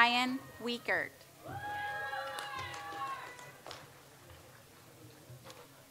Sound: audience applauds

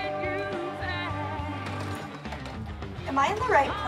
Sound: doorbell rings

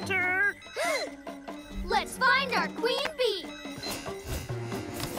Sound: gasps

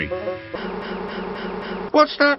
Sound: buzzing

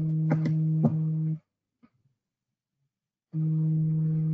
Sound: phone vibrating

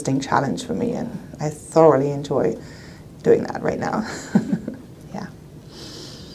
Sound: laughs

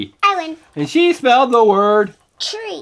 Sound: voiceover

